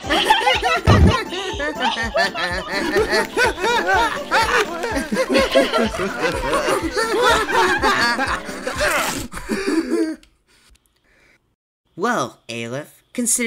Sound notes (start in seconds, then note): 0.1 Nabla and Glue laughing; 2.7 Nabla, Glue and Whoopee Cushion laughing